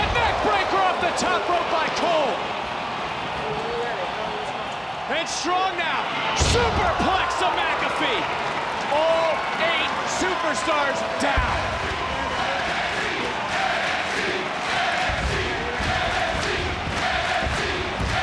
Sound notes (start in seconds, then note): 2.5 crowd cheers; 8.4 crowd cheers; 11.9 crowd cheers and chants